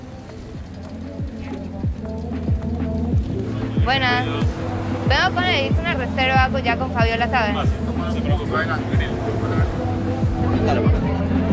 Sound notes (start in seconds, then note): 0.2 club music; 4.3 speaking in foreign language